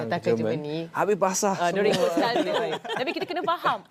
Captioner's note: laugh